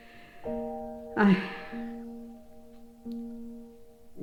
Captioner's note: sad, distressed breathing